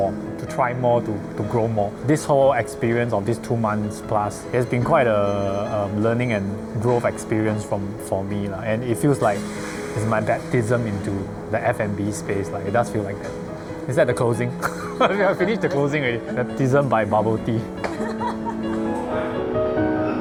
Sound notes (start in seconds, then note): 14.5 laughs; 17.8 crew laughs